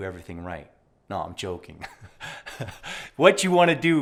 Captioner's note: laughs